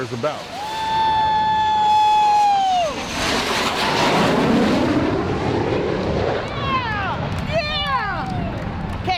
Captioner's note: woooooo...yeah